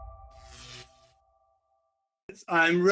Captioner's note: electricity crackles